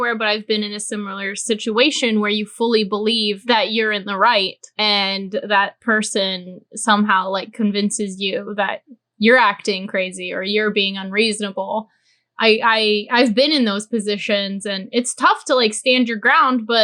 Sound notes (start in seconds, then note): none